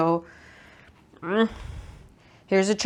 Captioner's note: gremliny shrugging grunt